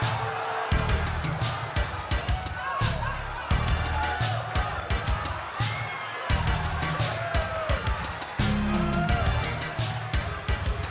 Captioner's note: crowd cheering